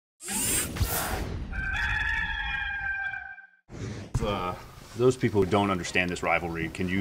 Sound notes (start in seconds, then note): 0.3 whooshing sound; 1.5 rooster crowing